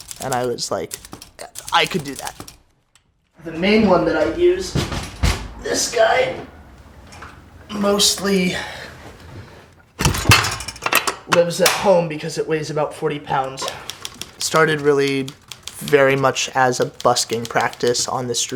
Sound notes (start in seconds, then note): 5.0 clattering; 10.0 clanging